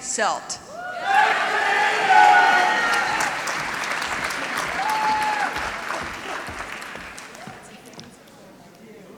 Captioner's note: applause